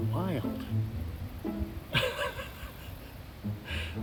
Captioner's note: laughs